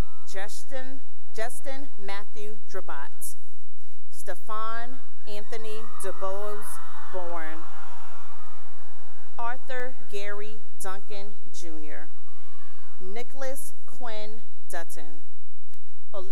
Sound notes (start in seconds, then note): 0.0 cheering; 8.1 cheering; 11.9 cheering